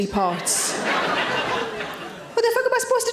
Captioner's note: audience laughing